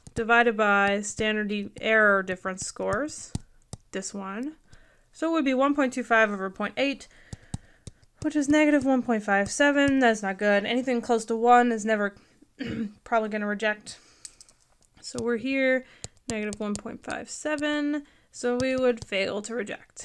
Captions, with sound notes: divided by the standard error difference scores, this one. So it would be 1.25 over .8, which is negative 1.57. That's not good. Anything close to one is never (clears throat) probably gonna reject. So we're here, negative 1.57, so we would fail to reject.